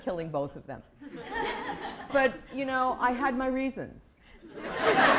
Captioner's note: laughter